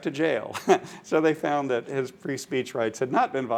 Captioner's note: laughs